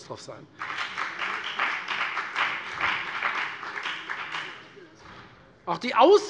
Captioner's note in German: Beifall bei der FDP